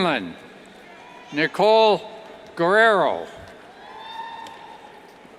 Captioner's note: cheers